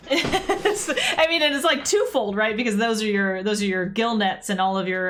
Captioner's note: laughs